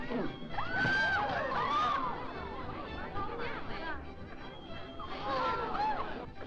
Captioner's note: crowd chattering; woman screaming; crowd gasping